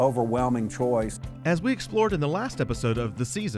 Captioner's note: voiceover